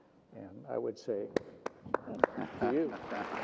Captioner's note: applauds